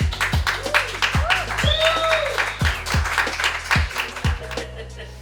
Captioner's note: applause